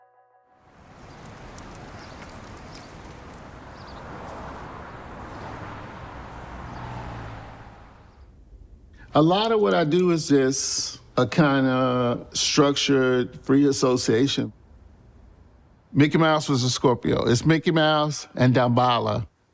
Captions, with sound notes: (birds chirp) (traffic passes) A lot of what I do is just a kinda structured free association. "Mickey Mouse was a Scorpio", it's Mickey Mouse and Damballah